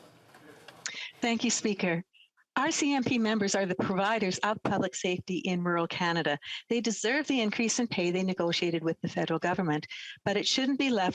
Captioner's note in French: voix de l'interprète